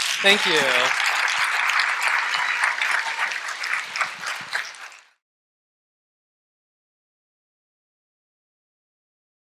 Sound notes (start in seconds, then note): 0.0 audience applause